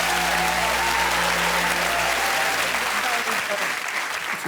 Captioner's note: applause